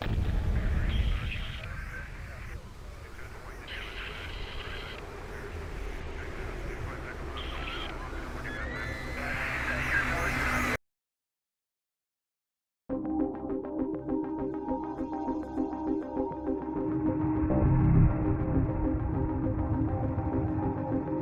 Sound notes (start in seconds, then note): 0.3 dramatic music; 9.0 woman screaming; 12.9 gentle upbeat music playing